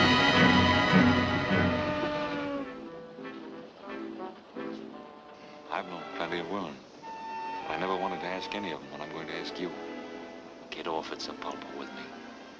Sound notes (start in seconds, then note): 0.0 train whistles; 0.0 music slows down